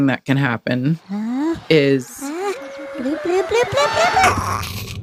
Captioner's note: SOUND EFFECT: Uh? Uh? Bloop, bloop, bloop, bloop! Eh